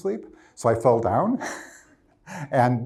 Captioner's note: laughs